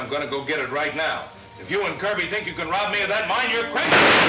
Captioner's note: gun firing; tense orchestra music